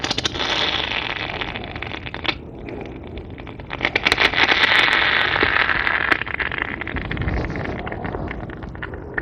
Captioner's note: crackling and foaming